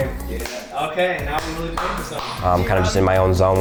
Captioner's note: clapping